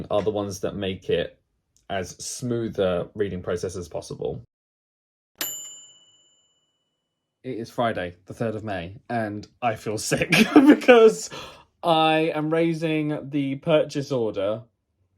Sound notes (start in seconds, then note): 5.4 bright bell dinging; 10.2 laughs